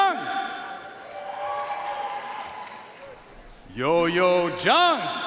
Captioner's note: audience cheering and applauding